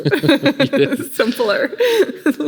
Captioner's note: laughing